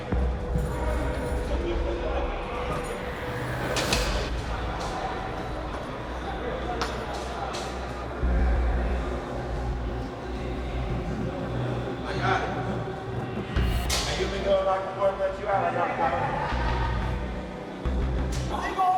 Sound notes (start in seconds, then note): 0.2 intense music; 3.3 cell door slams; 16.0 inmates laughing